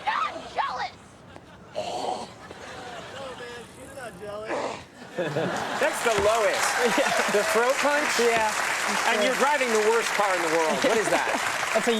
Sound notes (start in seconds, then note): 1.9 Michael groans; 5.0 audience and Conan laugh; 5.4 audience applauds